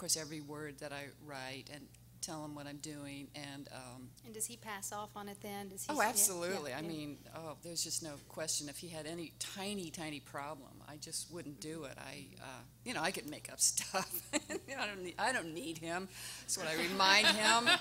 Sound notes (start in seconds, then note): 14.0 laughing; 16.8 everyone laughing